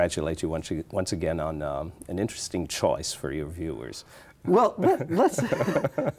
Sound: laughs

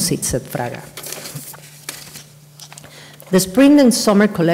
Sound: papers rustle

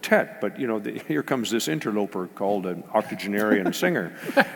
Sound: laugh

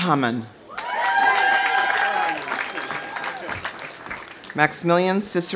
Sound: audience cheering; audience applauding

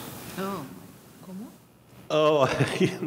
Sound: speaking in a foreign language

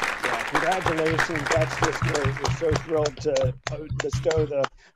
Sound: clapping

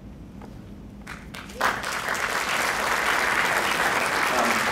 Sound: crowd clapping

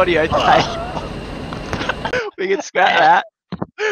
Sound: goose gagging; laughing

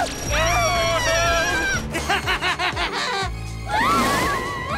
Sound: timmy laughs; everyone screams

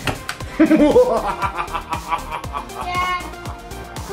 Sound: dad laughing hysterically

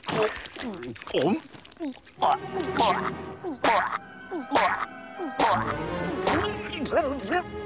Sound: choking

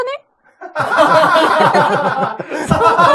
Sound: laughs

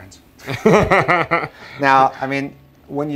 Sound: laughing

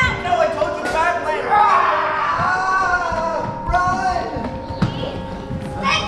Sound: Wirt runs screaming

